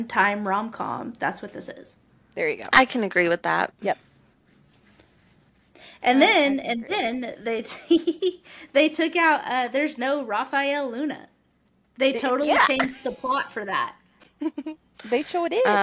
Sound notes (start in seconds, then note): 7.7 laugher